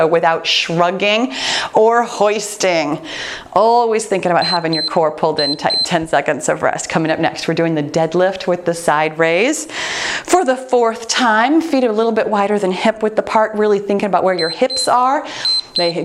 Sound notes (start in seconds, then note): 4.4 timer beeps; 15.3 timer beeps